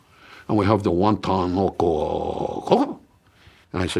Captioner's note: speaks gibberish